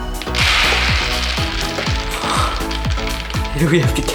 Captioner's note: beads falling